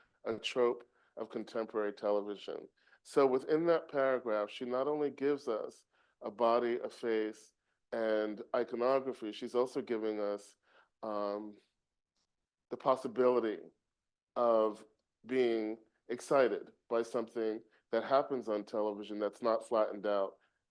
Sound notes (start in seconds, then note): none